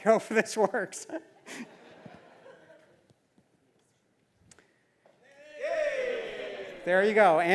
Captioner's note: laugh